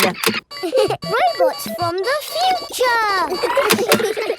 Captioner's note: laughs; kids giggling